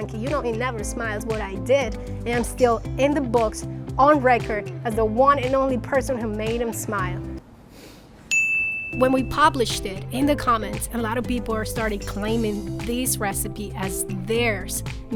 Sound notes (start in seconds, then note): 8.3 bell chiming